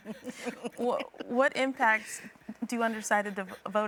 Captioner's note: all chuckling